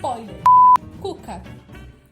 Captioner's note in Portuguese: bip